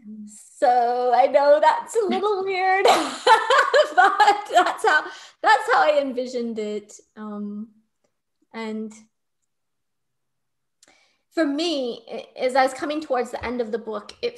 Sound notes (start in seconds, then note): 3.2 laughing